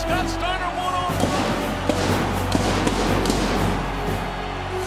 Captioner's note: fireworks exploding